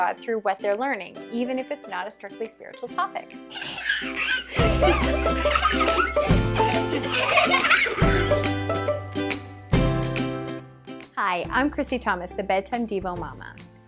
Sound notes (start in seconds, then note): 3.5 children giggling; 3.8 cheerful music